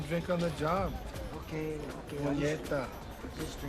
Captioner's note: Roland speaking in Spanish